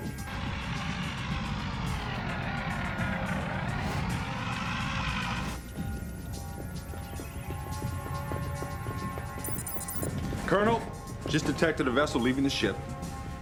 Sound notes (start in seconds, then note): 1.1 beetles whirring; 9.3 beeps